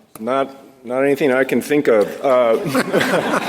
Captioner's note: laughter